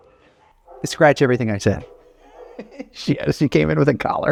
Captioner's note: laughs